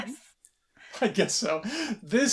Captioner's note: laughter